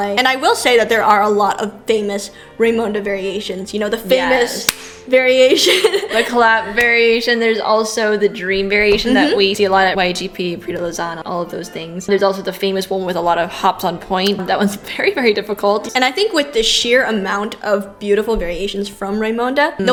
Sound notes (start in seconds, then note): 4.6 clap